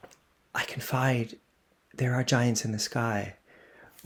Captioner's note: whispers